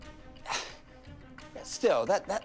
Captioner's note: scoffs